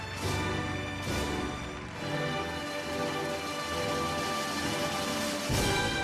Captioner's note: audience cheers and applauds